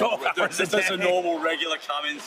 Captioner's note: laughs